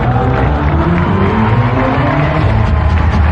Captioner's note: applause